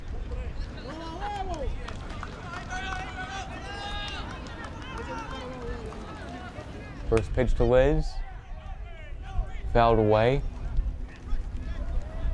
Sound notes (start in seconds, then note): 0.6 fans yelling in foreign language; 7.2 bat cracks